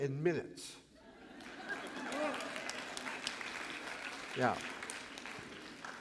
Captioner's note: applause & laughter